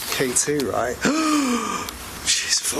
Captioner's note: gasp